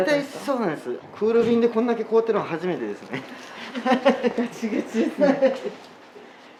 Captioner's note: laughs